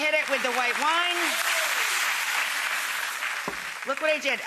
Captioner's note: audience applauding